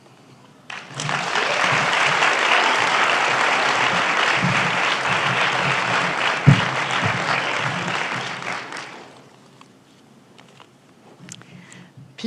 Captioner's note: applause